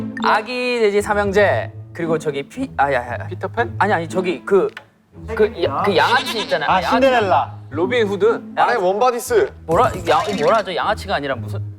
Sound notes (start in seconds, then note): 6.4 mispronunciation